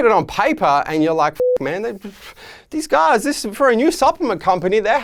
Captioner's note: beeping